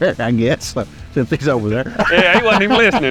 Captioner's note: laughs